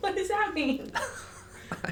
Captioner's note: chuckle